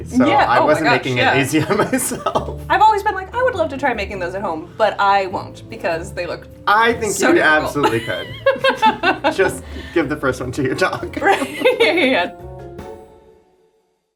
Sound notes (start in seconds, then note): 1.5 chuckling; 7.8 both laughing; 12.5 soft bright music